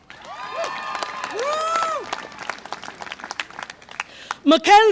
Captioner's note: audience applause and cheer